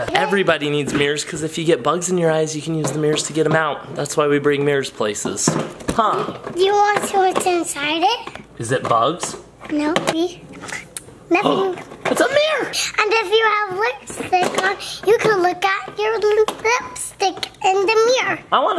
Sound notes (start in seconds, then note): 12.7 gasps